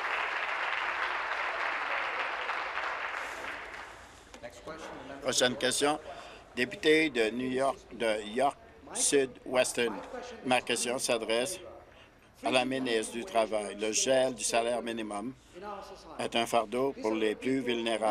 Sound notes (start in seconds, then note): 2.0 applause